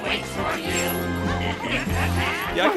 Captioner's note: ghosts laugh